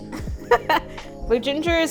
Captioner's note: laughs